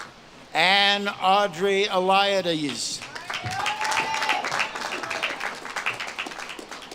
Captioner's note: audience claps and cheers